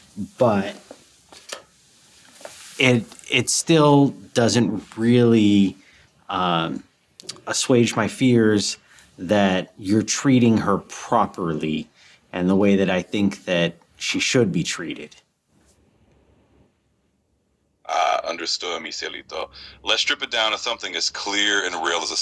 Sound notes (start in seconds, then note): 18.5 spanish